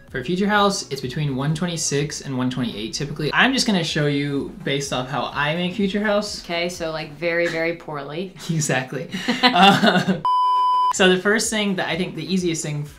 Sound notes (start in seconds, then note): 9.1 both laugh; 9.2 laughs